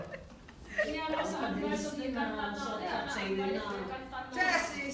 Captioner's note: speaking foreign language